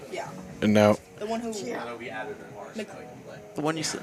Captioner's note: indistinct chatter